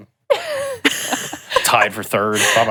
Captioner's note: chuckles